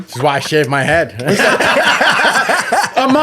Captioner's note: all laughing